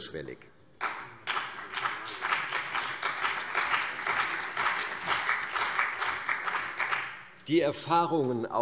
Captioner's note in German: Beifall CDU und BÜNDNIS 90/DIE GRÜNEN